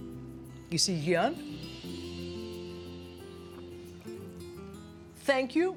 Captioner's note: speaking in greek